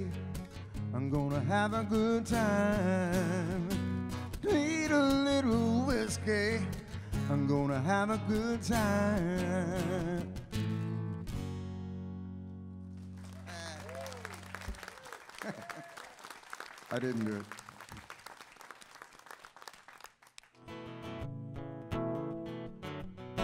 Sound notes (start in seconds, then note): 13.1 audience cheering; 14.9 laughing; 20.6 guitar strumming